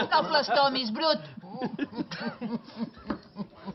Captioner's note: they keep laughing